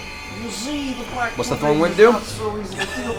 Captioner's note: Cosby voice